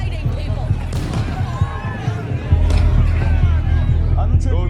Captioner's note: shouting; both speaking native language, glass clattering